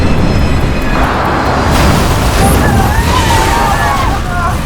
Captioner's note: plane crashes